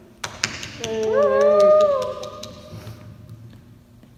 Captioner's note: cheering lightly